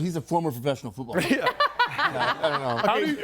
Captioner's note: group laughs